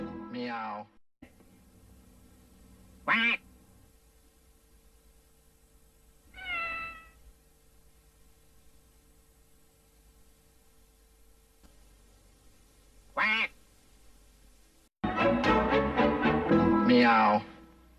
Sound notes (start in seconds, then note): 3.0 duck quacking; 8.0 VHS static; 13.1 duck quacks